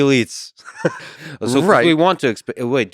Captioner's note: Robin and Lex laugh